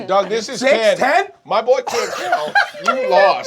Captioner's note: laughing